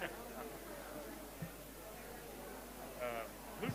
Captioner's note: background chatter